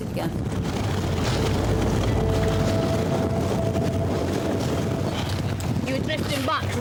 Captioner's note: wind swooshing; lifeboat engine whirring